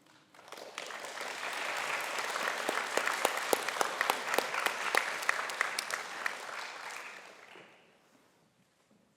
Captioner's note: applause